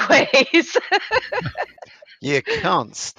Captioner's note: laughs